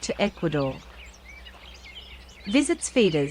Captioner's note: birds chirping and singing